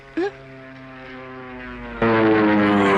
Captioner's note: airplane whirs